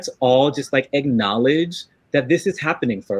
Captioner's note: none